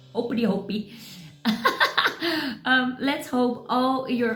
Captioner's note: laughs